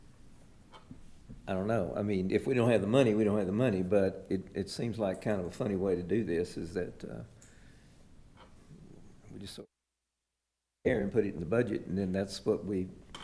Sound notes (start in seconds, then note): 9.4 audio cuts out